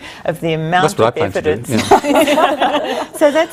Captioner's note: all laugh